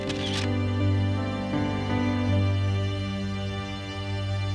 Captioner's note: camera shutter clicks